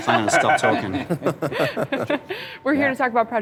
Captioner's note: laughter